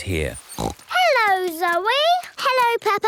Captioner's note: snorts